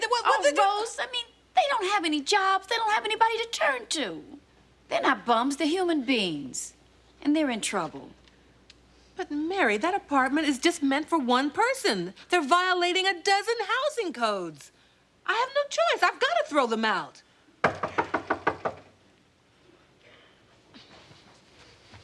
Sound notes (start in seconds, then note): 17.6 knocking on door